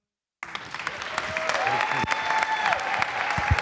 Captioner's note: applause